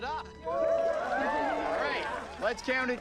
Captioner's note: audience cheering